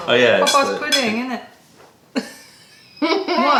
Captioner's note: laughter